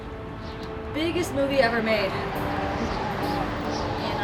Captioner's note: chuckles